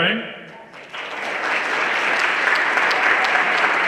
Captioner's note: everyone applauding